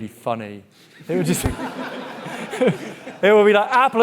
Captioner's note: audience laughing